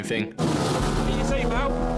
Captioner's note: engine whirring